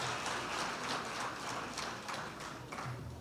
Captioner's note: cheers and applause